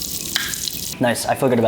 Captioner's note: pop rocks sizzle